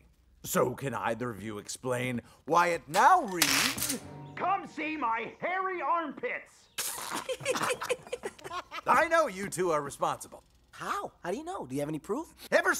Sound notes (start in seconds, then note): 6.8 chuckling